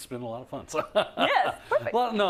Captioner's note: laugh